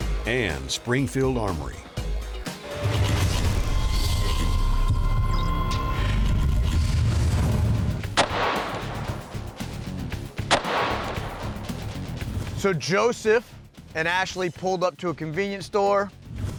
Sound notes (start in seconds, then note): 4.5 digital music; 10.4 gunshots firing; 11.9 rock music